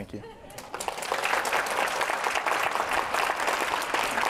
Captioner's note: applause